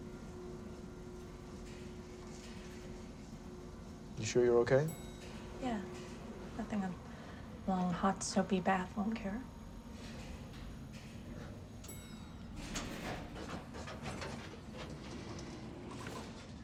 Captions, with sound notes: (elevator whirring) - You sure you're okay? - Yeah. Nothing a long, hot soapy bath wouldn't cure. (elevator dings) (elevator rattles)